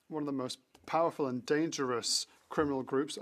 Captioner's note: speaking French